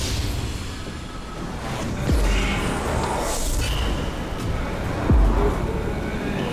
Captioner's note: TV whooshing; soft ominous music